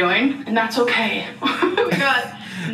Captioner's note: laughs